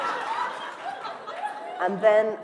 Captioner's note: laughter